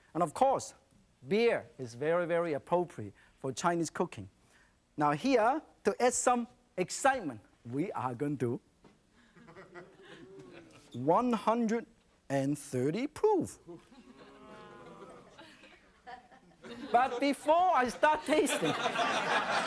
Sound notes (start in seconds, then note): 14.0 audience wows